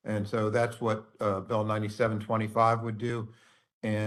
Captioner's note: none